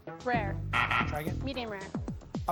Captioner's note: buzzer sounds